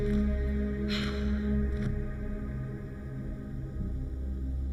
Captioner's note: Gina sighs